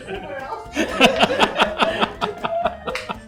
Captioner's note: laughter